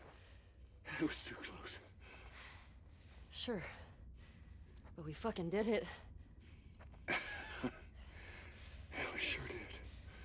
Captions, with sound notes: That was too close! Sure... ...but we fuckin' did it! (laugh) Yeah, we sure did.